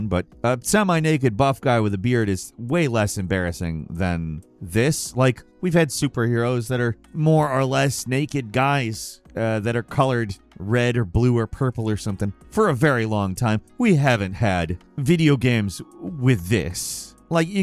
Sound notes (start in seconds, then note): none